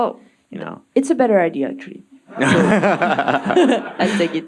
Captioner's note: audience laughing